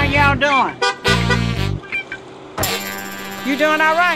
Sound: car horn beeps

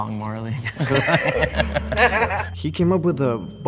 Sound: group laughs

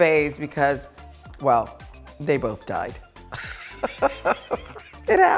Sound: laughing

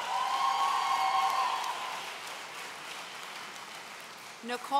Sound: audience cheering

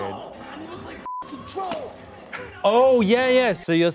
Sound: beep

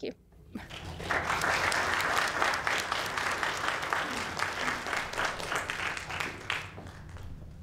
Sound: applause

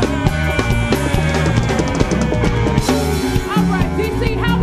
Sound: audience cheering

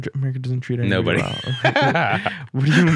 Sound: laughs

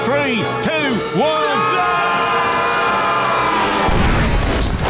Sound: screaming

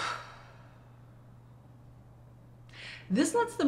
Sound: person sighing

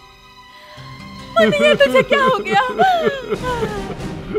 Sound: crying

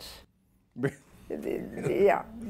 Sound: laughs

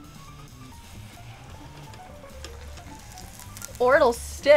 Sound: oil crackling

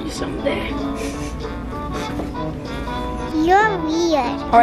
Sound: sniffles

